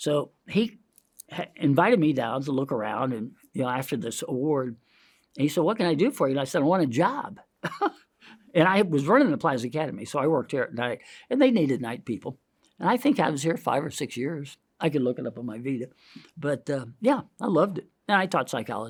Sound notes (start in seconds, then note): 7.9 laughs